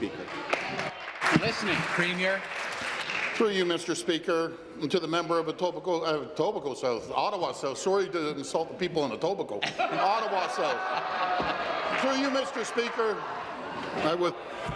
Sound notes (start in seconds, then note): 4.9 applause; 13.4 laughter